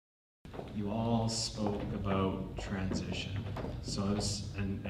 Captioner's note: voiceover